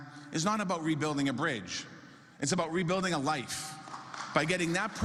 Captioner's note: applause